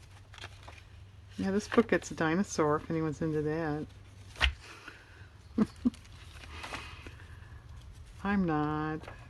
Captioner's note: laughs